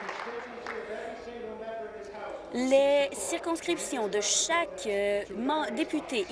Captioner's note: applause